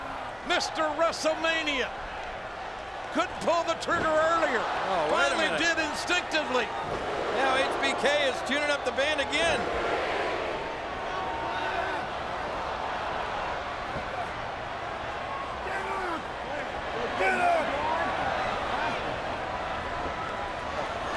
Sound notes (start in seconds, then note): 12.6 crowd clamoring